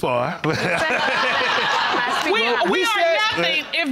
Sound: all laughing

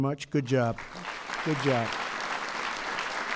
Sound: applause

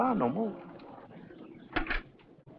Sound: door clicks open

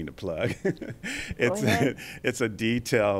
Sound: laughs

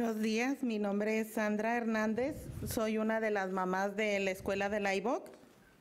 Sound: speaks in a foreign language

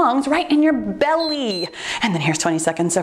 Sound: timer beeps

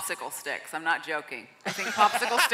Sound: laughing

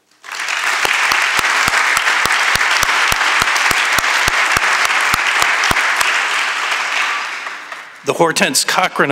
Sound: applause

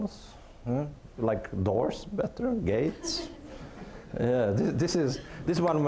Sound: audience laughing

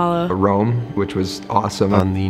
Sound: voiceover

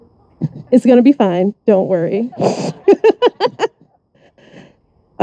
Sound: laughs

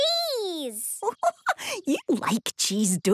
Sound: giggling

